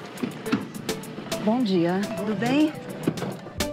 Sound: in Portuguese

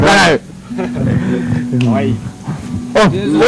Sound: chuckling

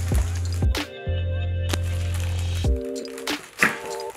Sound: toy crinkling

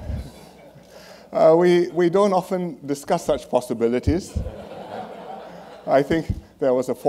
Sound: laughter; laughter

